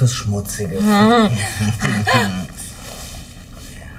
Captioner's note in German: Überraschter Laut